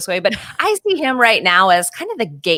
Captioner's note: chuckles